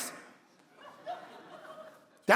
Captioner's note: congregation laughing